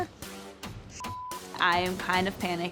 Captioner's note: beeps